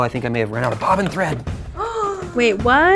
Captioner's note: gasp